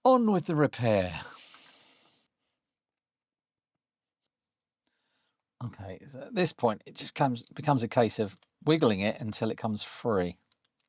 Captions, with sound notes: On with the repair. (Silence) Okay, at this point, it just becomes a case of wiggling it until it comes free.